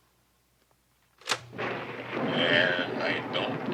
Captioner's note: play button clicks